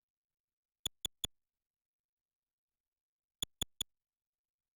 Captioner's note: soft, high-pitched clicks